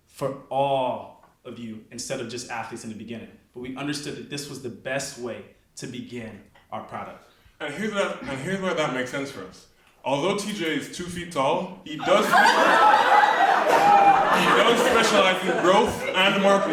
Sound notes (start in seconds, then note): 12.0 audience laughs